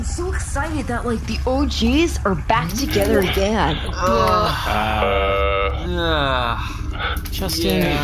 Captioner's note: groaning